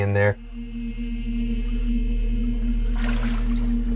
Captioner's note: human voices droning; water sloshing